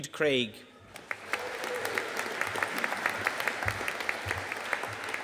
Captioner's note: audience applauding